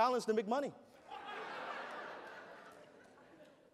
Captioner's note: laughter